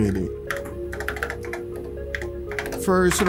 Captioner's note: keys typing